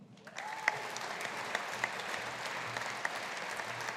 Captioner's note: audience applauding